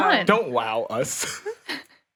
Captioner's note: laughs